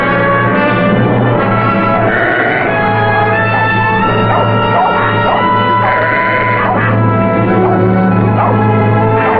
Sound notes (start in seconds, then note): 1.6 sheep bleating; 3.2 dog barking; 5.6 bleating